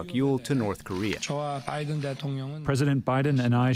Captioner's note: through translator